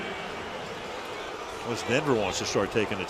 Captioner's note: crowd boos